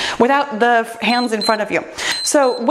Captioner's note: timer beeps